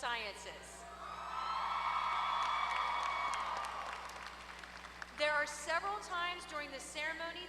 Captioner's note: applause